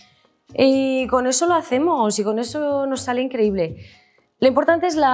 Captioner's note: speaks in Spanish